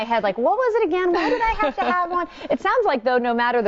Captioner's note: laughing